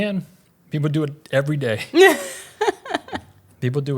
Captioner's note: laughs